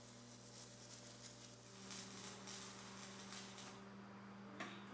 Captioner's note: sparks fly